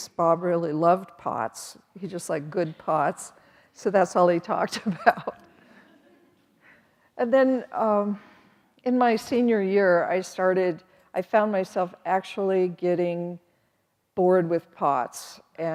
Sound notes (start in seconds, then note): 4.9 chuckles